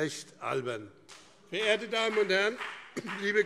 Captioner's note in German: Beifall BÜNDNIS 90/DIE GRÜNEN und CDU